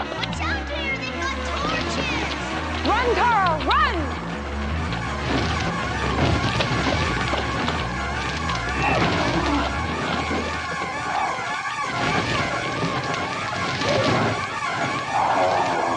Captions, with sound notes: Watch out Deneer, they've got torches! Run, Tara, run! (frenzied electronic music) (growling)